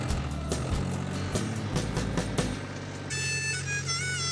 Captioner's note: tractor revving; playing harmonica